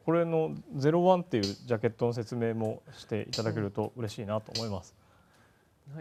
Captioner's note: sound for choosing letters